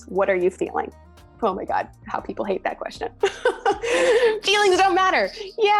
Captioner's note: laughing